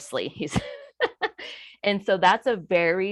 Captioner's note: chuckles